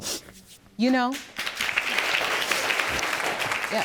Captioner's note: applause